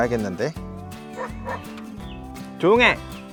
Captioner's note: dog barking